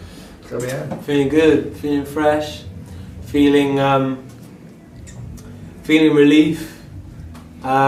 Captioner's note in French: Chant